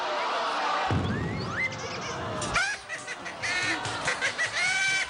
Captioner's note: cartoon laughing